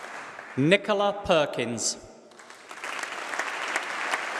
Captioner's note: applause